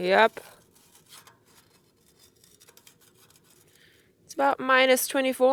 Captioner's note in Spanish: hielo crujiendo